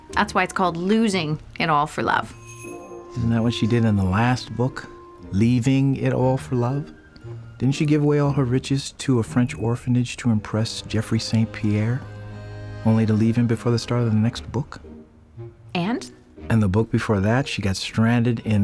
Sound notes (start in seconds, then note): 2.2 doorbell jingles